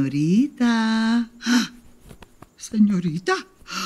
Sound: gasp

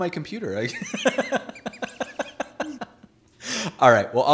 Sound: laughing

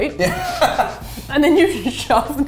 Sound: laughs

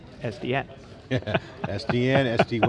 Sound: laughing

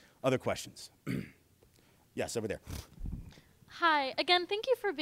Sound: clears throat

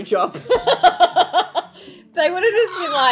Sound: women laughing

